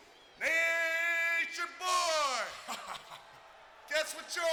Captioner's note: Scott chuckling